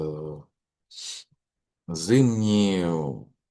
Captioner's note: sniff